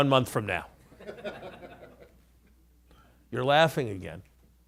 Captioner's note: laughter